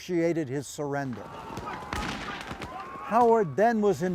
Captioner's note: gunshots firing; men shouting